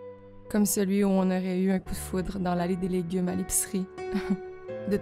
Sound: haha

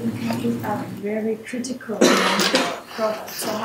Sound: male coughing

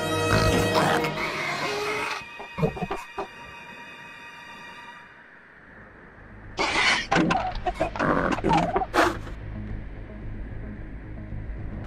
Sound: Gallimimus Sounds

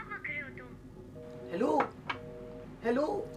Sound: call disconnected

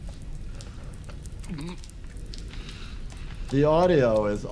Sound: victim gasps; blood spatters

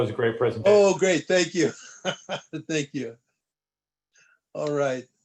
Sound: laughter

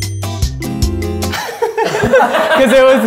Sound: laughing

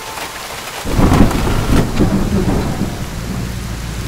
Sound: thunder rumbling

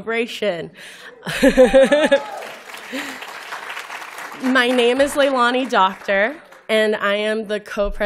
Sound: laughter; applause

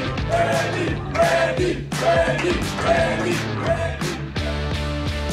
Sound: crowd

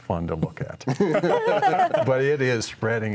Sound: all laughing

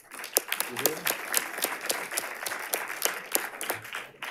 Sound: audience applauding

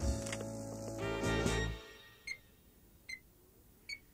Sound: beeping

